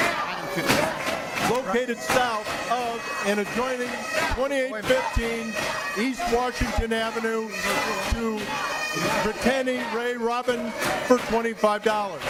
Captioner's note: audience chanting shut it down